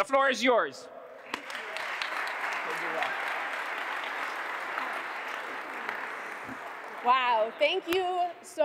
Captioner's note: applause